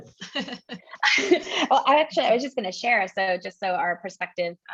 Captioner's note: laugh